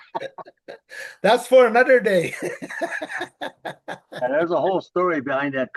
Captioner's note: laughs